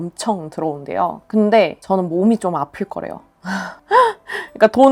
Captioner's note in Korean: 헉 소리